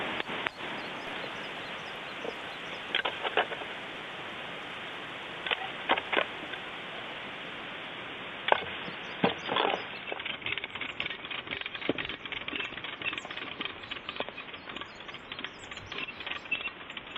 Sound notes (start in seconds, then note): 0.2 tap tap; 1.7 bird singing with digging noises; 10.1 winching sound